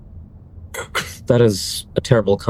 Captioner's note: clears throat